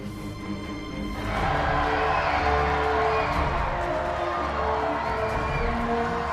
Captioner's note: intense dramatic music; audience cheering